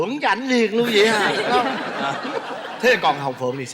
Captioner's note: laughing